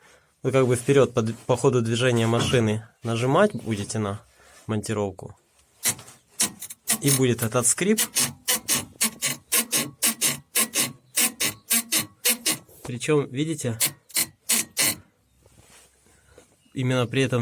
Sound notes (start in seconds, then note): 8.6 creaking noise